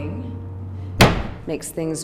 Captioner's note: slam